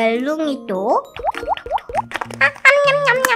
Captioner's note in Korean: 투두두둑